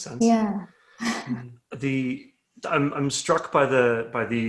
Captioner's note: laughs